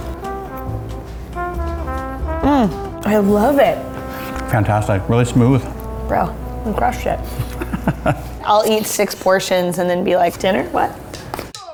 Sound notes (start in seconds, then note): 7.3 laughing